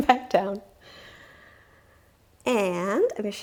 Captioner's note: giggles